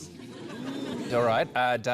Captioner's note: laughter